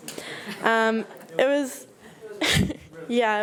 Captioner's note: speaks faintly